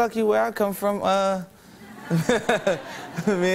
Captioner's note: laughter